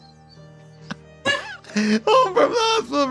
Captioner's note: laughs